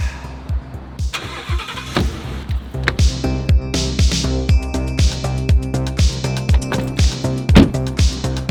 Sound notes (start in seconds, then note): 1.1 engine starting